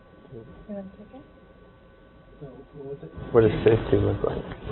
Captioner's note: murmuring